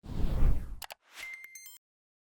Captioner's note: whoosh; electronic beeps